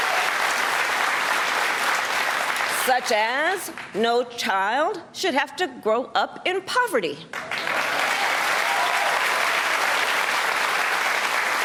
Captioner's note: cheers and applause